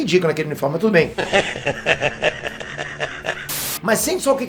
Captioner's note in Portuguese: risada